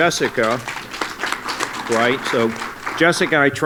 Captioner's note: applause